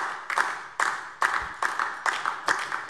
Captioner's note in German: Beifall DIE LINKE